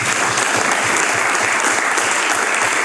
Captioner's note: applause